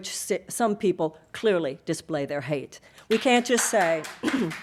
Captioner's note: audience applauding